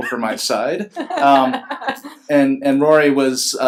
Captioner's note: laughs